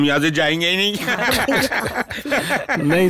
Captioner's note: Laughs